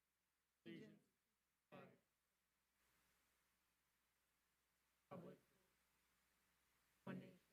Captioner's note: pledge of Allegiance cutting in and out